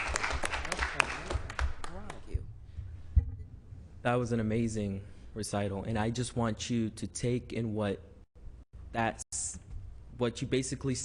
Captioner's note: applause